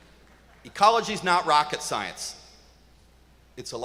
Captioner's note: applause